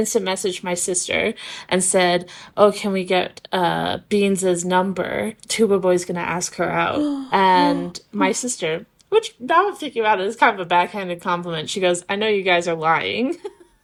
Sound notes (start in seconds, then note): 6.9 gasp